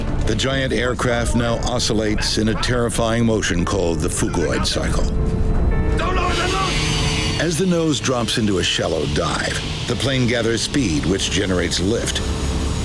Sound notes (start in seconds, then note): 6.3 speaking in foreign language